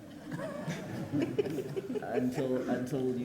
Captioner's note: people laugh